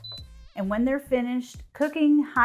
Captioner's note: cooker beeps